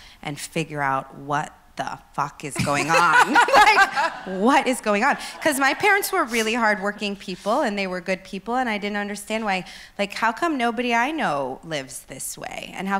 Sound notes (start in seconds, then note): 2.6 laughs